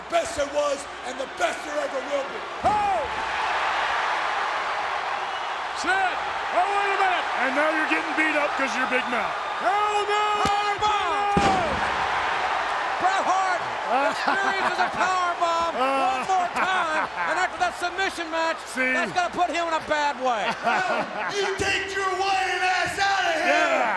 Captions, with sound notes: the best there was, and the best there ever will be. Oh. (audience cheers) Sid. Oh, wait a minute. And now you're getting beat up because of your big mouth. Power bomb. (audience cheers) Bret Hart experiences a power bomb one more time. (Shawn laughs) And after that submission match- See? That's gotta put him in a bad way. Now, you take your whining ass outta here.